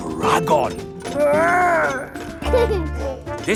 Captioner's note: giggles